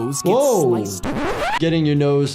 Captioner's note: transition scratches